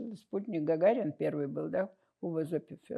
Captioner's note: russian